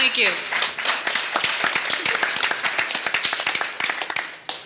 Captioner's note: audience applauding